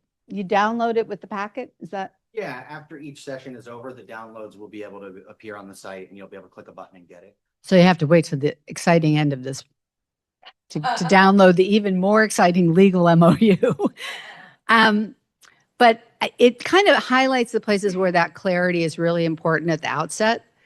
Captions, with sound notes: you download it with the packet. Is that...? Yeah. After each session is over, the downloads will be able to appear on the site, and you'll be able to click a button and get it. So you have to wait till the exciting end of this to download the even more exciting legal MOU. [chuckles] But it kind of highlights the places where that clarity is really important at the outset.